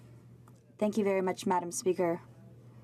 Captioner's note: speaking French